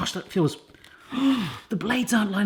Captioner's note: gasps